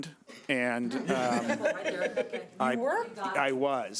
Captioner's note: chuckling